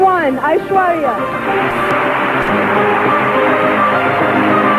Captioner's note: audience applauding